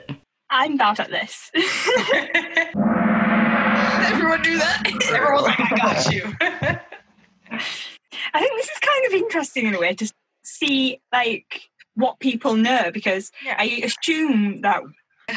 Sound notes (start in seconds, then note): 2.2 laughs; 2.8 cymbal crashing; 5.5 laughing